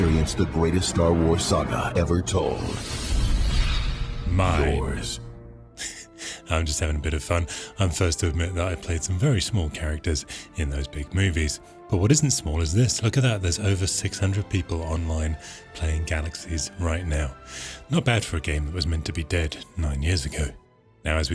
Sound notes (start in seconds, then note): 5.8 laughs